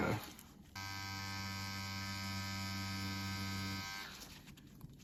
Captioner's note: machine whirring